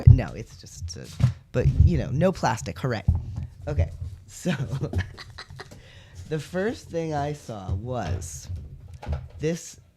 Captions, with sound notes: No, it's just - But, you know, no plastic. Hooray. Okay, so [laugh] the first thing I saw was this